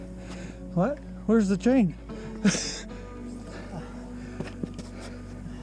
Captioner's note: chuckling